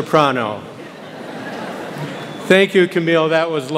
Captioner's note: audience laughs